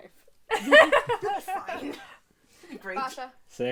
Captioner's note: laughter